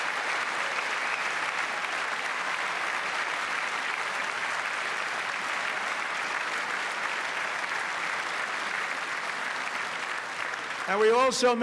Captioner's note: applause